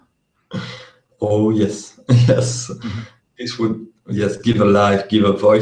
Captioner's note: laughs